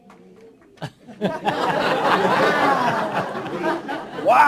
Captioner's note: laughter